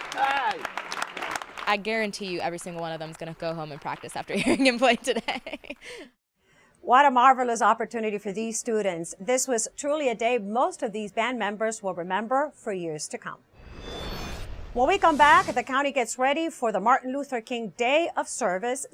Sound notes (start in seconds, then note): 0.0 applause